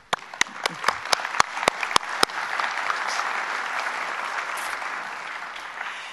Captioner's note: applause